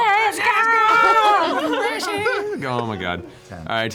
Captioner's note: laughter